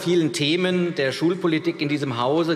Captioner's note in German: none